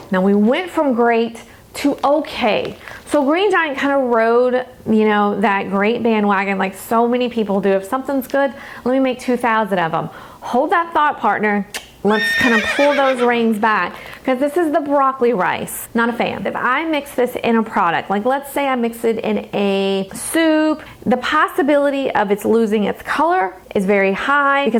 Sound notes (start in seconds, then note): 12.0 horse neighing